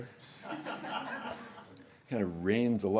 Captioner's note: laughter